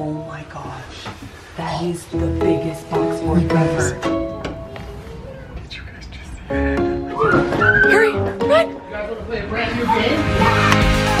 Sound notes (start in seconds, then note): 7.2 playful screaming